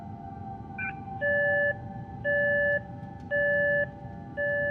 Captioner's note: device beeping